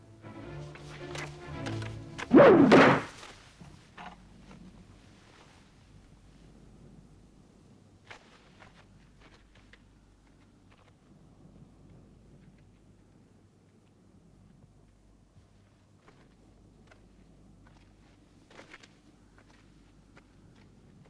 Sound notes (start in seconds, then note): 0.0 dramatic music; 2.1 spear thuds